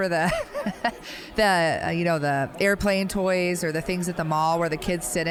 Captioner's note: laughing